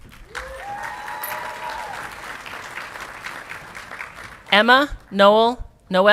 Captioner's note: audience clapping and cheering